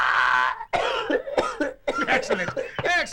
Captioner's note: coughs